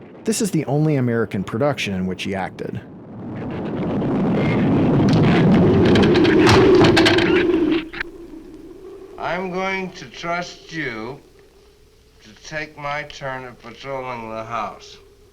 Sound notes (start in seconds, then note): 3.5 thunder cracks; 5.5 branch breaks